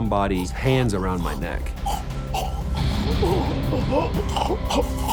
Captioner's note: gasping for breath